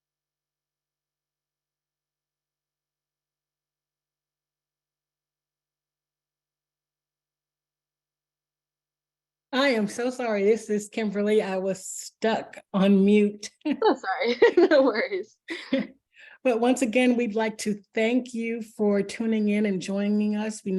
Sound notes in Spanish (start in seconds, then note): 14.2 Risas